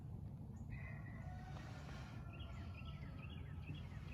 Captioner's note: rooster crowing in the distance